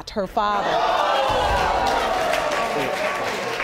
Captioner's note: audience gasps; audience applauding